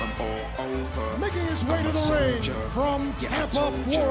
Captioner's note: bell ringing